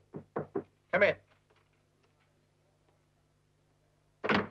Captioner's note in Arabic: يطرق الباب